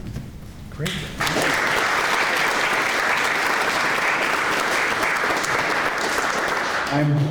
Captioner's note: clapping